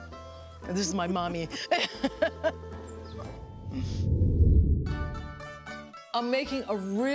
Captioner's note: laughs